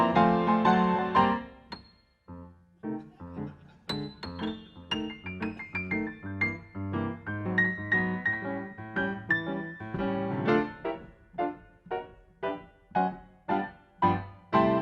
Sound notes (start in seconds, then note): 3.1 audience laughing